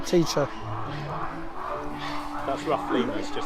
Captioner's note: ruff Lemurs Calling